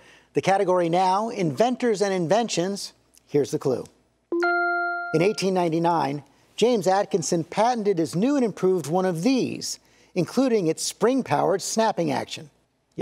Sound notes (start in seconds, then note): 4.4 bell dings